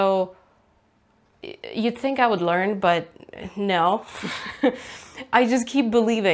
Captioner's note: laughs